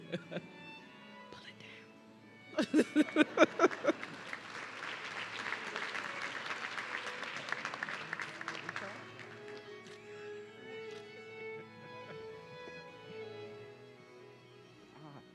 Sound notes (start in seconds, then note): 2.5 laughing; 2.5 laughs; 4.8 audience clapping